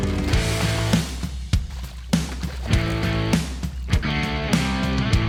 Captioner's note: water splashing; rock music continues